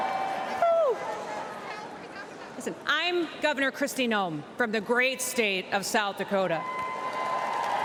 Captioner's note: cheers and applause